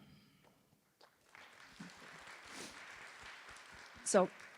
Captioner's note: applause